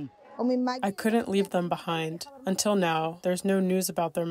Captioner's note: through translator